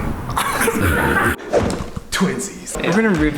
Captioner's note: abrupt laughter; gun woosh